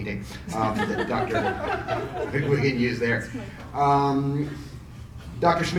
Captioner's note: audience laughs